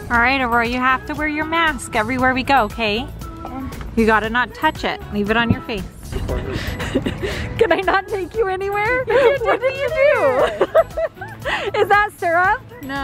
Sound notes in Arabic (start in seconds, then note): 6.2 موسيقى مبهجة; 8.9 يضحك